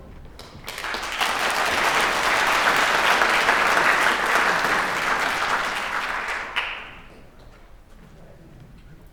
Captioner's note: applause